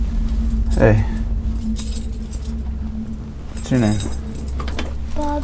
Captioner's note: keys clinking